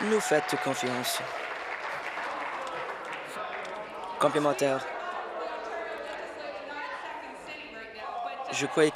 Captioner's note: applause